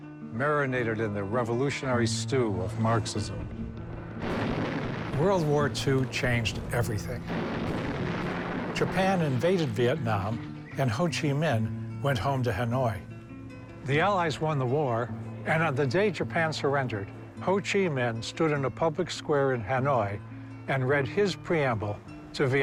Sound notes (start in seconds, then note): 3.9 cannons firing